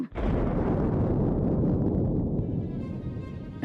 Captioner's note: banging